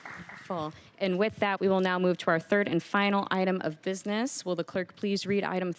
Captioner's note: applause